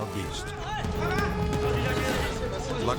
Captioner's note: tourists yelling in foreign language